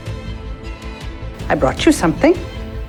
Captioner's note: voiceover